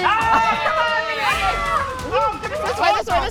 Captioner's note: campers cheering